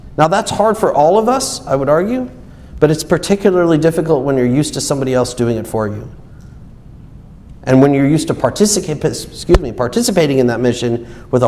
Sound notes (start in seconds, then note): none